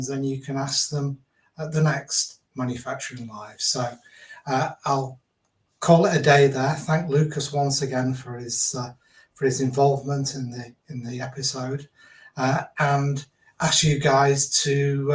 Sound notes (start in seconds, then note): none